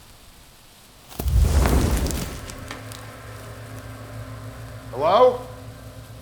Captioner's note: flares continue hissing; branch snaps; creature whooshes